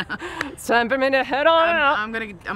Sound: laughs

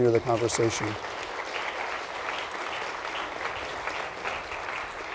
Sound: audience claps

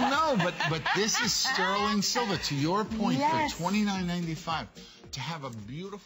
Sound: laughter

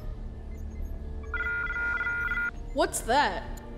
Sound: computer Alarm

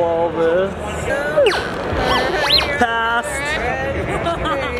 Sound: device beeping

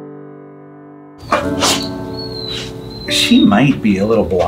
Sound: Dawn whimpering

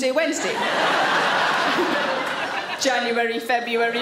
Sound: audience laughs

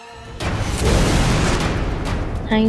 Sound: whooshing sound

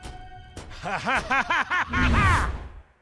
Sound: laughing

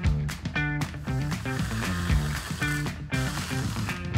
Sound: cream whirring

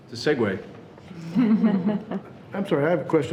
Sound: people laughing

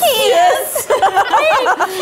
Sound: laughs

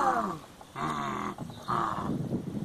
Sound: grumbling

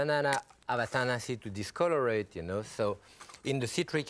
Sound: foreign language

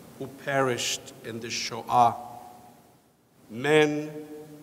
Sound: speaks foreign language

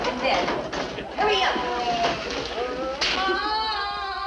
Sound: prisoners moan

